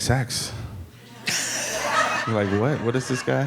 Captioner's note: audience laughing